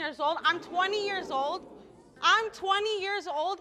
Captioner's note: audience exclaiming